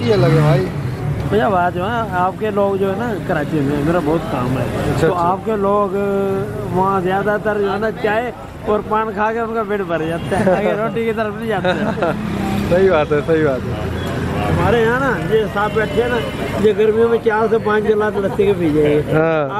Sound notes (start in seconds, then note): 10.2 laugh